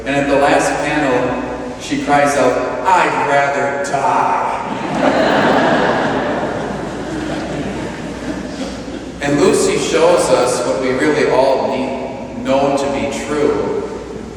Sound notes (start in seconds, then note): 4.6 laughter